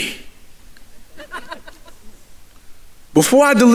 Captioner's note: audience laughing